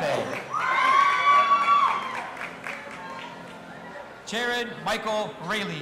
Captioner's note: audience applauding and cheering